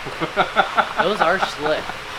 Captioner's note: laughing